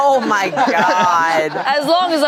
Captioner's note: everyone laughs